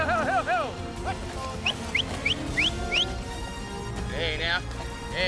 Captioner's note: cowboys calling cattle; whistling